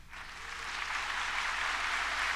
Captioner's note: applause